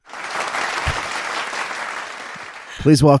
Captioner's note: applause; laughing